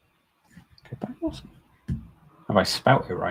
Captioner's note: mumbles